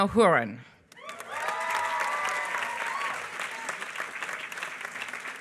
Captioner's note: applause